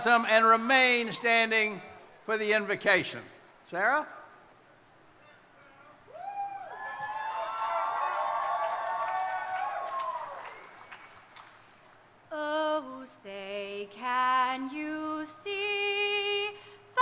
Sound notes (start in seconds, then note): 6.2 crowd cheering